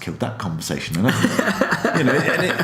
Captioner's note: laughs